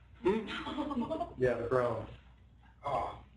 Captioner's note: laughter